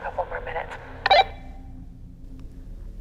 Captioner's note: walkie-talkie blips